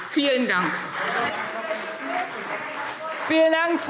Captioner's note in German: Beifall CDU und BÜNDNIS 90/DIE GRÜNEN